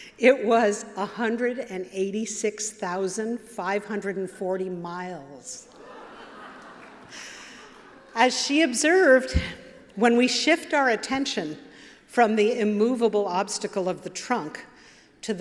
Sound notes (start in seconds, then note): 5.7 laughter